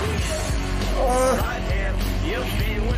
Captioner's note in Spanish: se queja